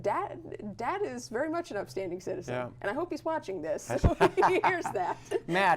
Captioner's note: laughter